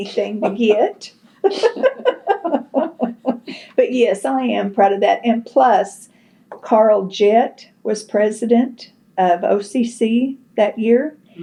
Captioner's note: laughter